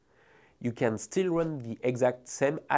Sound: text whooshing

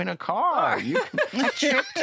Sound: laughter

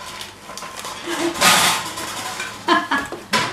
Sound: laughing

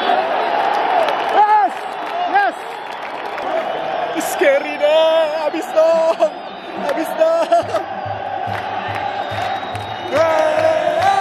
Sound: clap

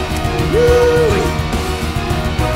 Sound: Engineer cheers

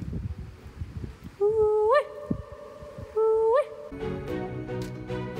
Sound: echo

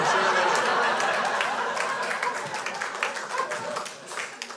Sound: crowd laughs

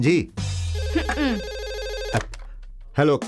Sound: phone ringing; scoffs

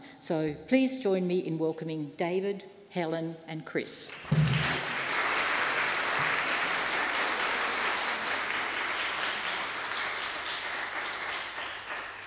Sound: applause

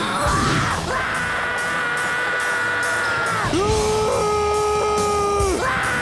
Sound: grunting; screaming

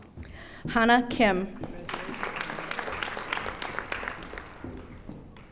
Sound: audience applauding

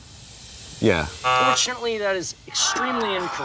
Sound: buzzer

